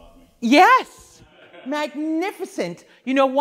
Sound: laughs

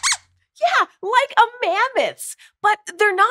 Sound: squeaks squeaks

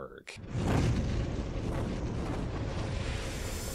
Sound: logo roaring

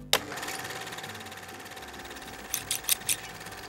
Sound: light bulb whirs; camera clicks; scissors snip

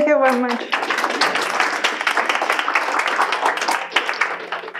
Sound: class claps

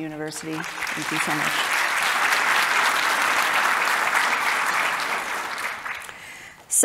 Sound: audience applauding

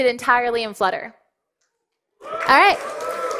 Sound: cheering and applause

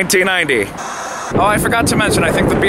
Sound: static hissing

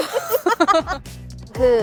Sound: laughing

